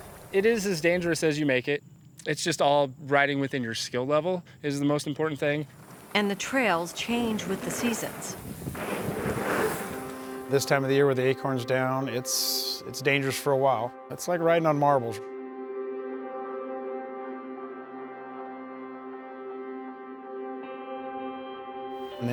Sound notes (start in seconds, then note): 8.5 bikes riding past; 16.8 dramatic music